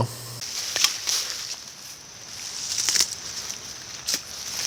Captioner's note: vegetation rustling